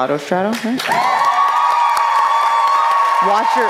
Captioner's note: applause